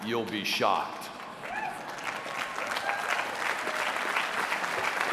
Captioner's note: applause